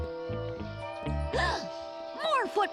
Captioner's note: suspenseful music; gasps